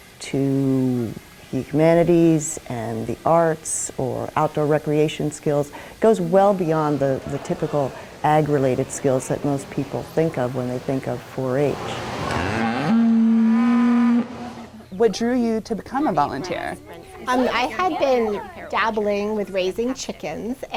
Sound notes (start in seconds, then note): 11.8 cow mooing